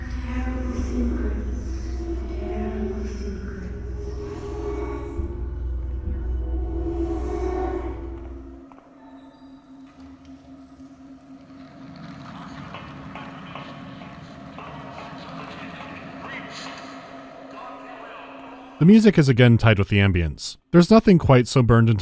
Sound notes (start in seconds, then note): 0.0 ghastly murmurs; 8.2 sounds of alarm siren and security update through loudspeaker